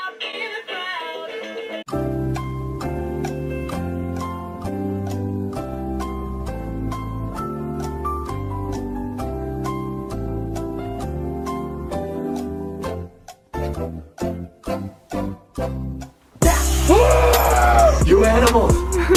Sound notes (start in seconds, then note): 16.6 screams